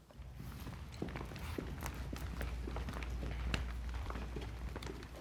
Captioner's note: footsteps thudding